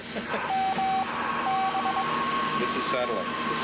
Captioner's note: beeping